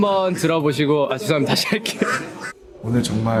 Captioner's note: laughs